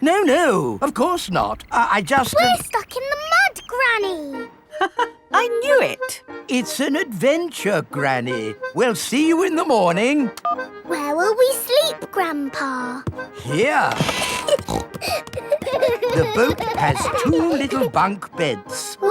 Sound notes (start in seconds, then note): 5.0 laughs; 13.9 snorting; 14.2 kids giggling